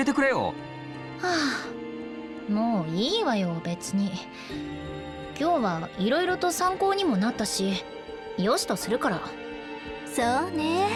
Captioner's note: sigh